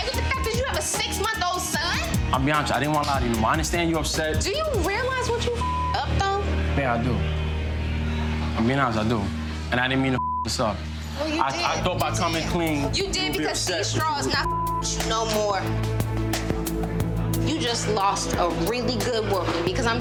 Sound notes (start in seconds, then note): 5.6 beep; 10.1 beep; 14.4 beep